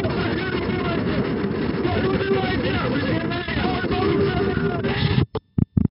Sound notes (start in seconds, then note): 4.1 radio Altitude Alert; 4.9 scream